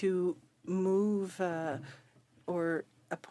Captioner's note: speaking French